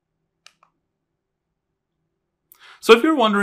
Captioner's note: remote clicking